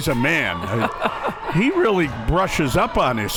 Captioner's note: laughing